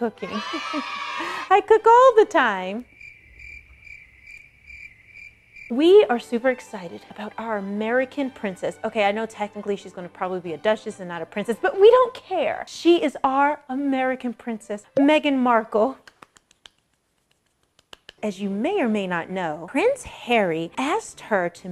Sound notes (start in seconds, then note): 0.1 laughs; 0.2 children cheering; 2.8 crickets chirping